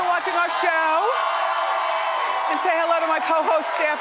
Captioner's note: audience applauds